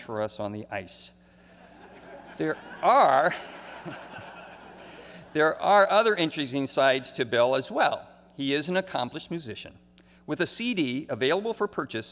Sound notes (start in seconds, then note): 5.9 laughter